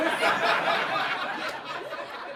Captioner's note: laughter